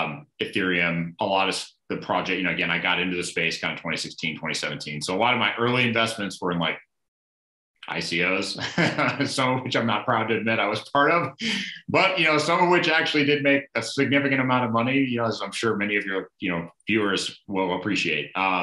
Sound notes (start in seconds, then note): 8.5 laughing